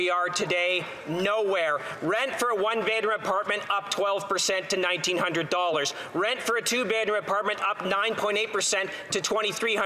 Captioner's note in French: voix de l'interprète